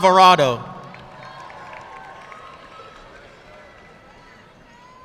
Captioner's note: audience clapping